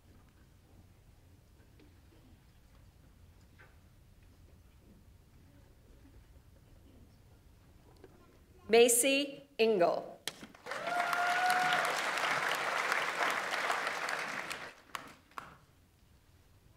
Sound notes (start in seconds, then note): 10.5 audience applauds; 10.6 audience members cheer